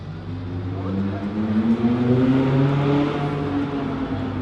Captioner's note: people chattering